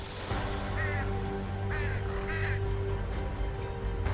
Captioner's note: dramatic music; birds cawing